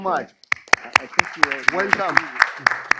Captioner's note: applause